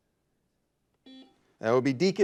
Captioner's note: buzzer buzzes